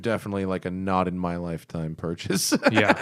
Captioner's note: laughter